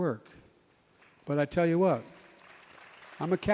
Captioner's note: applause